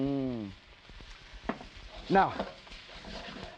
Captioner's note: food sizzling